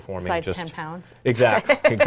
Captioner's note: laughing